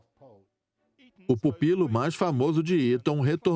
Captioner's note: voiceover